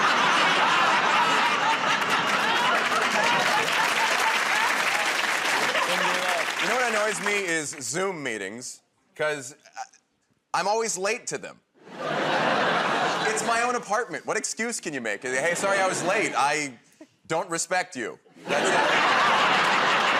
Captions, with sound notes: [ Laughter ] [ Applause ] -You know what annoys me is Zoom meetings because I'm always late to them. It's my own apartment. What excuse can you make? "Hey, sorry I was late. I don't respect you." That's it.